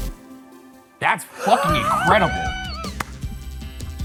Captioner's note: wheezing; bright music